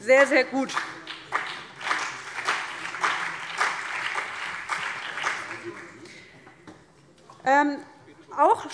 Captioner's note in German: Beifall CDU und BÜNDNIS 90/DIE GRÜNEN